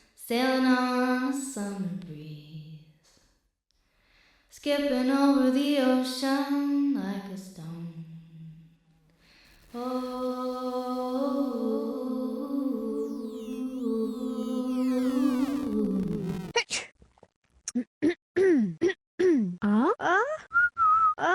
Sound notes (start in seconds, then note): 12.6 voice echos; 16.6 clears throat; 16.6 sneezes; 20.5 whistling